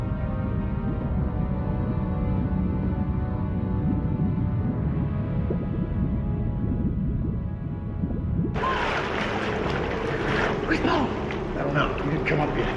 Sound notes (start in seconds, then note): 9.1 gasps